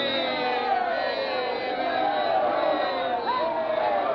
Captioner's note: citizens cheering